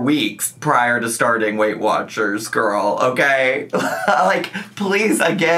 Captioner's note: laughs